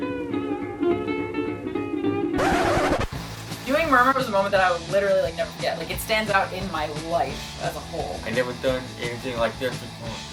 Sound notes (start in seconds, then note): none